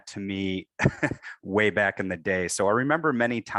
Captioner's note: laughs